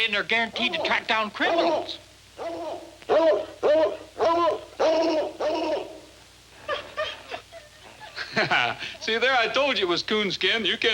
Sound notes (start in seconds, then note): 2.3 dogs barking; 7.3 dogs whining